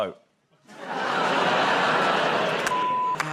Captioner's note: laughter, groaning